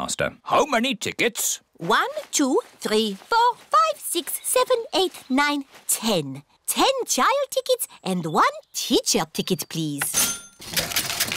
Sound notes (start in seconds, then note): 10.0 cash register dings